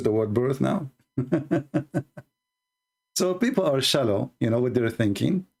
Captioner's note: Ketawa